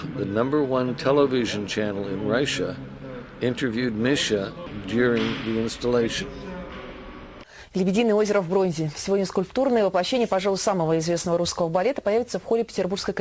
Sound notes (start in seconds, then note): 7.7 reporter speaking in the Russian language